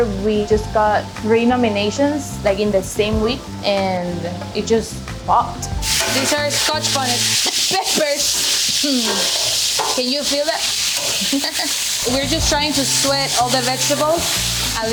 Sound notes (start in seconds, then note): 11.2 chuckling